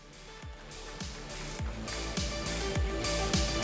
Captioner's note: outro music; applause